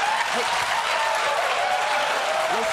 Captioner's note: cheering